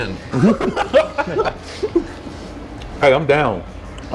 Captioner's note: both laughing